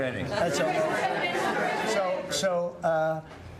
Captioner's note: laughter